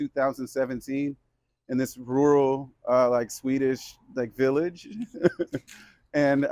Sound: laughs

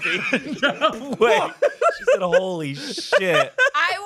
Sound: everyone laughs

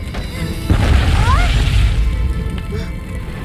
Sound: crashing sound

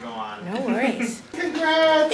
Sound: person laughing

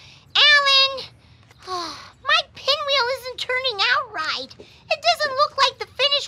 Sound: groans; sighs

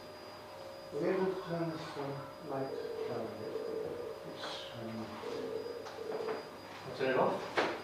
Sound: dialling on Skype

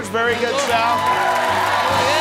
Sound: applause and cheering

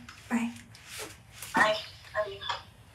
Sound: on phone

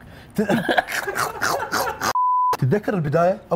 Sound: laughter

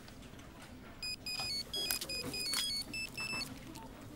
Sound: phone rings

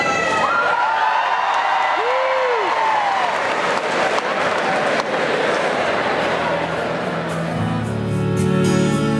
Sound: applause

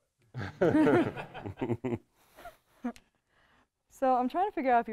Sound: everyone laughs

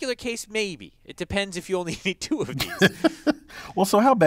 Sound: laugh

